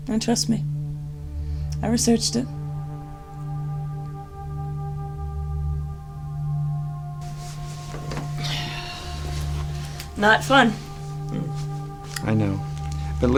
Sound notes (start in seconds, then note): 7.3 sighs